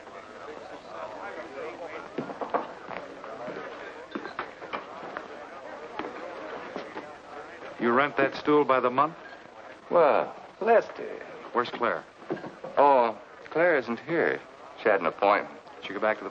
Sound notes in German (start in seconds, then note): 2.0 geschäftiges Geschwätz